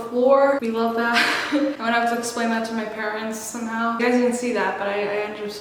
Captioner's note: laughs